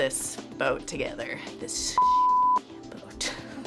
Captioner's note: laughs